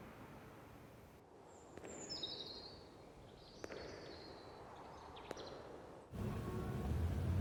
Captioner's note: footsteps echo; birds softly chirping